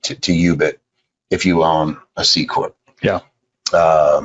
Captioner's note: murmurs